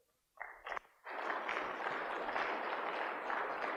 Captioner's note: applause